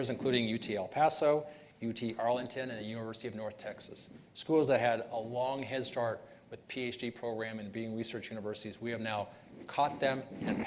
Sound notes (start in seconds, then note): none